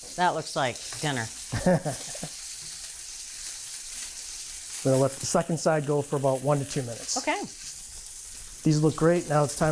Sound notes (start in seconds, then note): 1.5 chuckles